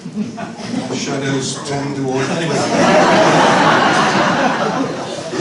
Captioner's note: laughter